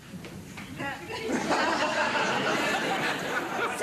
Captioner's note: audience laughing